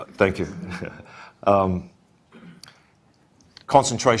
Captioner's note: chuckles